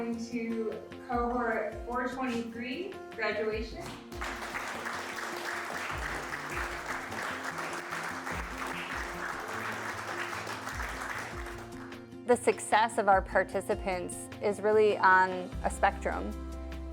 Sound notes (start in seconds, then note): 3.8 applause